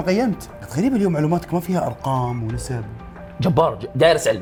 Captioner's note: mocking